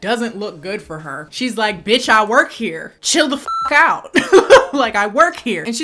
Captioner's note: beep